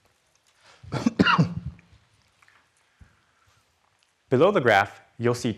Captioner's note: coughs